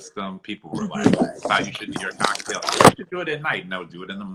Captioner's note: voice distorting from disturbance